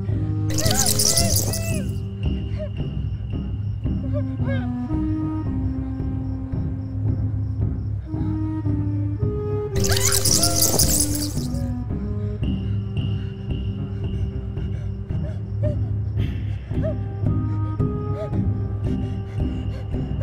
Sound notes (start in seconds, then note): 0.5 bats Screeching; 4.5 whimpering; 9.7 bats Screeching